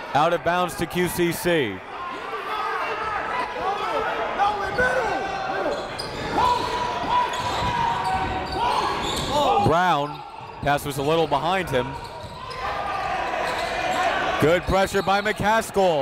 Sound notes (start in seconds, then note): 3.0 coaches yelling; 3.0 crowd talking